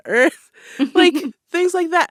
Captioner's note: laughter